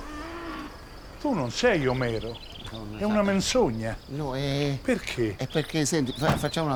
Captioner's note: Omero stuttering